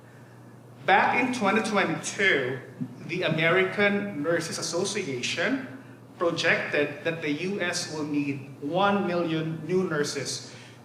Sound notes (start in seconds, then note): none